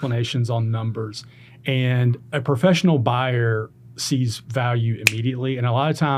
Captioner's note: snaps